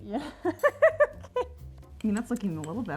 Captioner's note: giggling